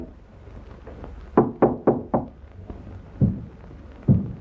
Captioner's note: Jim knocks